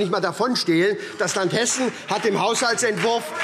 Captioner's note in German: Beifall SPD und Freie Demokraten